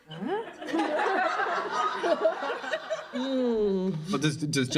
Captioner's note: laughter